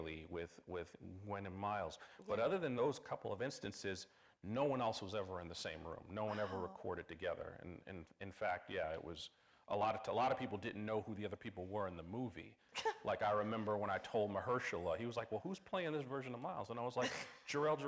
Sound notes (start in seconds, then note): 12.8 chuckling; 17.6 scoffing